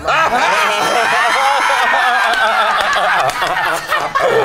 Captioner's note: group laughs; group claps